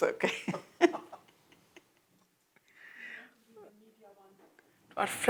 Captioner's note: laughs